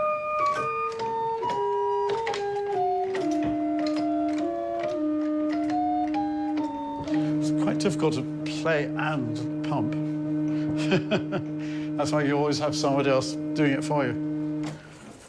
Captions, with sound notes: - It's quite difficult to play and pump. (laughing) That's why you always have somebody else doing it for you.